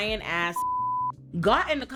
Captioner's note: beep